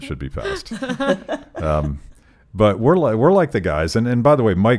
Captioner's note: laughing